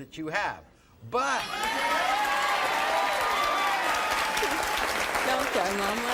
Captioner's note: audience cheering and applauding